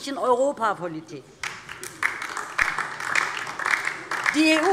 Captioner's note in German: Beifall DIE LINKE